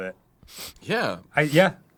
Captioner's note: quick sniff